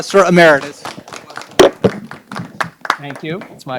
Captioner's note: audience applauding